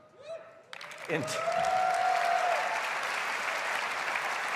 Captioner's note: cheers and applause